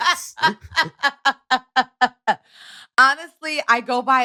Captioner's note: laughter